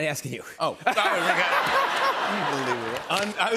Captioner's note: laughter